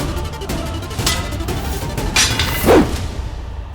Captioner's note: clanging